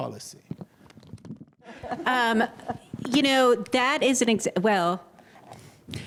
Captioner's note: laughter